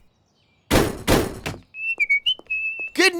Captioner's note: whistling